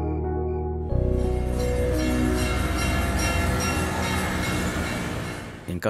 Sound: temple bells ringing

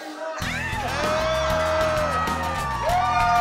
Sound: cheers and applause

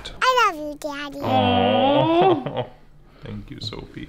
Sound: both cooing

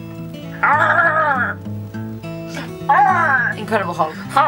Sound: growls

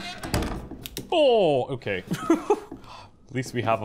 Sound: door creaks and closes; laughs

